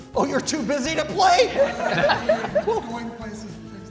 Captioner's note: laughter